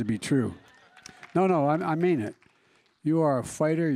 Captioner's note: laughter and applause